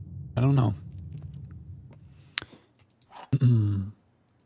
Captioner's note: clears throat